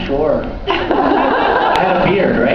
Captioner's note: laughs